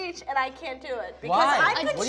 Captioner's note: arguing